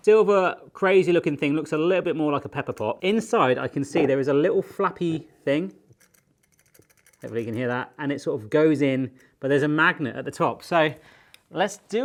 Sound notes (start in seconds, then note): 5.6 plastic pieces flapping